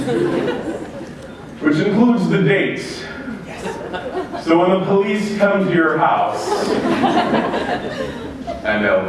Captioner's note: laughter